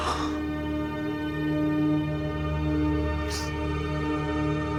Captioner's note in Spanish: llanto